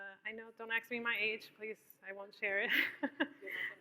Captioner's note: laughs